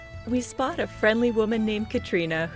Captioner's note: none